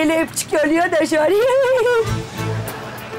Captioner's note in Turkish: Gülme sesi